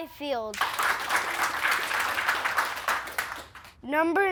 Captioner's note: players clapping